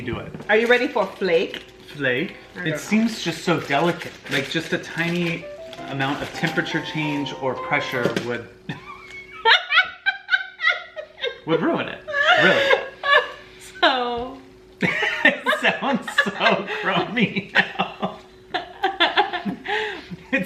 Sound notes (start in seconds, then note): 9.0 laughing loudly; 19.1 laughs